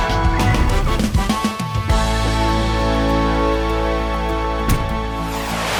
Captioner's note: jazzy band music; jazzy horns music; thudding; energetic music; soft thudding